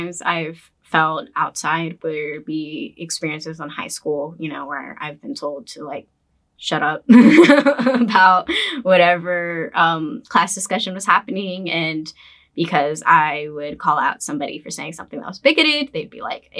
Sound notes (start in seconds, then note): 7.5 laughs